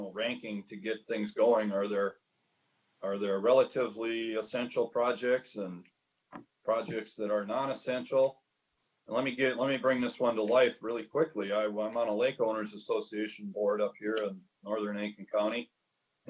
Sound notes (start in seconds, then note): 13.2 murmurs